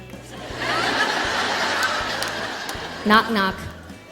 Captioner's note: audience laughing